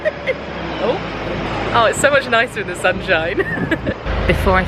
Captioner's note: laughs; laughs